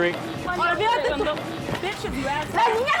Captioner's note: arguing